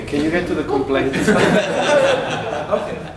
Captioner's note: laughter